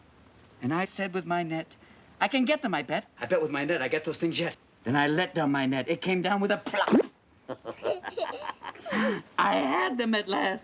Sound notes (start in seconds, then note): 7.4 both laughing